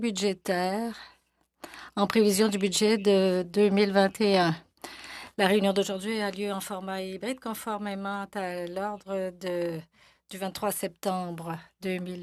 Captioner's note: speaking FRENCH